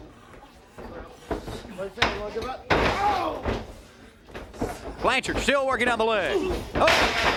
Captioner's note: crowd chatter